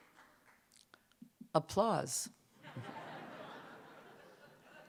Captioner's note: applause; laughter